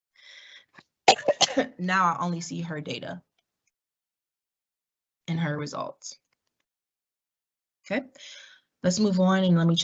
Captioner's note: cough